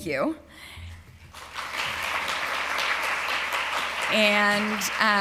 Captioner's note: applause